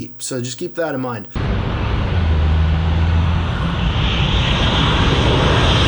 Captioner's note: airplane roaring